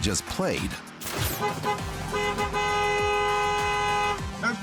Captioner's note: car horns honking